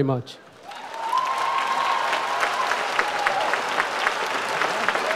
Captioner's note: audience applauds